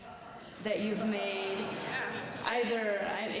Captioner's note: audience laughing